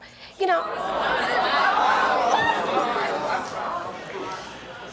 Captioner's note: audience jeering